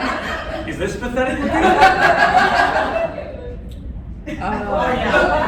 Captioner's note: laughter; laughter